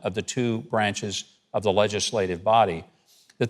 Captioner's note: none